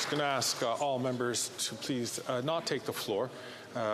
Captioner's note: some Applause